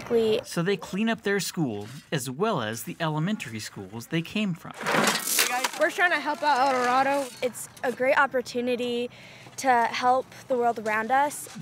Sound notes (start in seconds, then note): 4.7 shoveling rocks